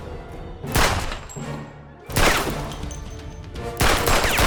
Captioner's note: gun firing